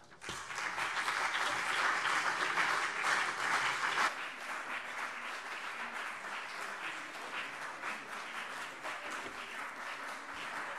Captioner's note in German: Anhaltender Beifall CDU und BÜNDNIS 90/DIE GRÜNEN